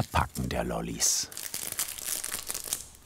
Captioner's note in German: Knistern